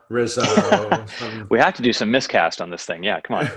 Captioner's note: laughing